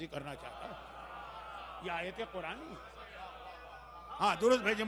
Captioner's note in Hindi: हौसला बढ़ाने की आवाज़